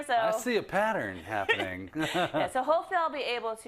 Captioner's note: laugh